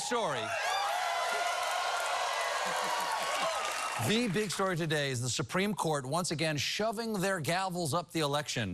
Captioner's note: cheering